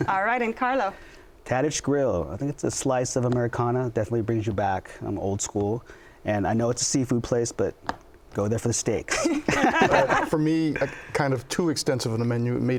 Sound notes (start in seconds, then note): 9.1 laughter